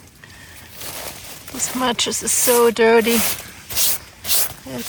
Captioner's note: brushing sound